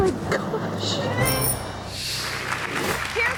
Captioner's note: bike bell rings; audience applauds